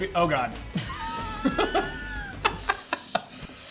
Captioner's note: laughs